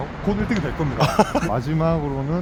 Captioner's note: hahaha